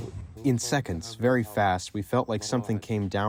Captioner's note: through translator